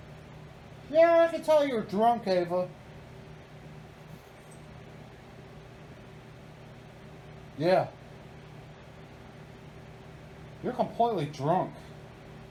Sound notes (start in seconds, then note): none